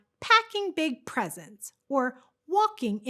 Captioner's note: none